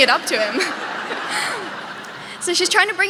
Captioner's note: audience laughing